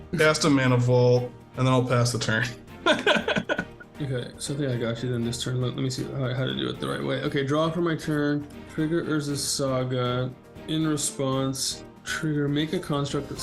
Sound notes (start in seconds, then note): 2.8 both players laughing